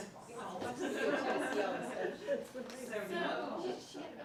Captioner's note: laughter